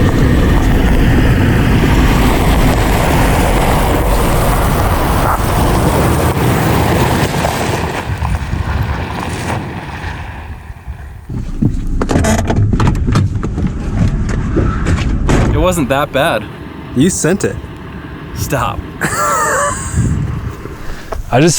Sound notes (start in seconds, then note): 2.0 car engine humming; 2.0 tires scrunching; 8.1 tires scrunching; 12.0 hand brake squeaking; 15.1 door thuds; 19.0 laughs